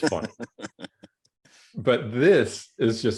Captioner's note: laughs